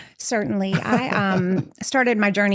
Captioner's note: laughter